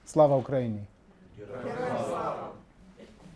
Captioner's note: speaking in foreign language; audience speaking in foreign language